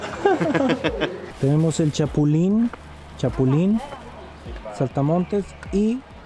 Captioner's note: grasshoppers